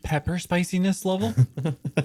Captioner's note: cast laughter